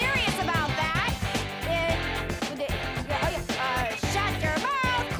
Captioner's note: stammering